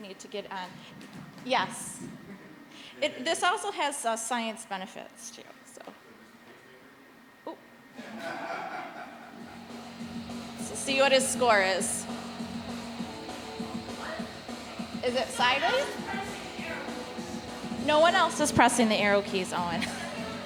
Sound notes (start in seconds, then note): 8.0 audience chuckling; 9.8 upbeat rock music; 13.0 upbeat rock music